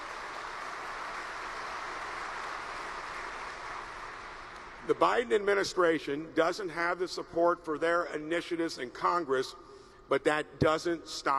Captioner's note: applause